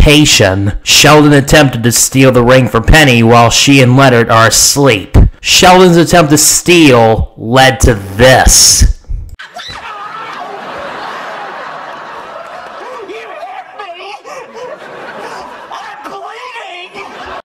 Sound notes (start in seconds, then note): 9.4 penny screams; 9.5 sheldon screams